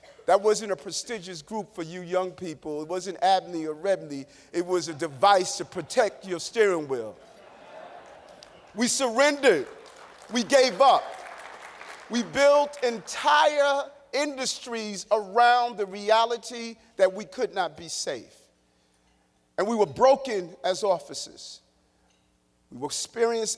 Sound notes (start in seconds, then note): 7.2 laughter; 12.3 applause